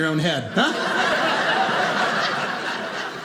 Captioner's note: audience laughing